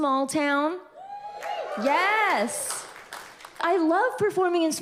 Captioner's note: audience cheers